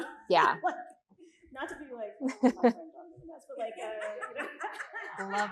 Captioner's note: faintly speaks; all laughing